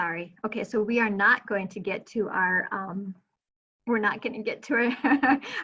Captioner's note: chuckling